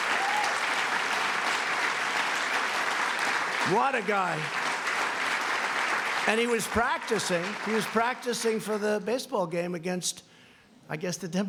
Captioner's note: applause